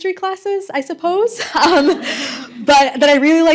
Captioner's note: laughter